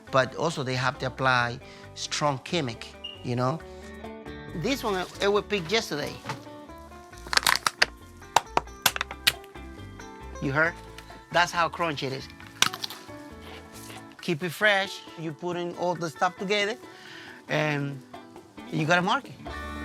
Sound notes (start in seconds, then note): 6.7 bottle crinkling; 7.2 cucumber snapping; 12.3 cucumber crunching